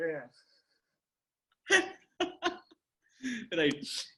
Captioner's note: laughs